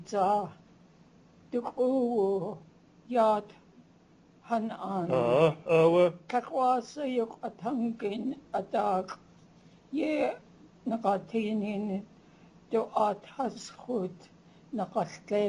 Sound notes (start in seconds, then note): 4.9 non-english speech